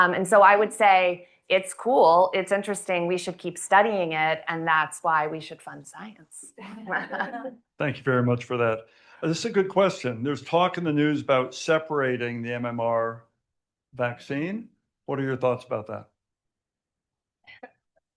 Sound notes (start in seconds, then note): 6.6 all laughing